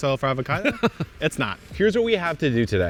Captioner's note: laughing